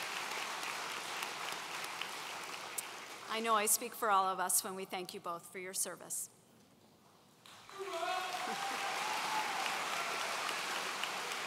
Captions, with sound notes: I know I speak for all of us when we thank you both for your service. (audience cheering)